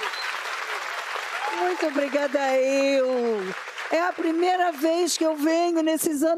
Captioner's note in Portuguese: aplausos